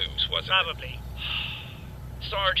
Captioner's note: sighs